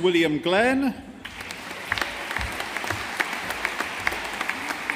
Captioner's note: audience applauding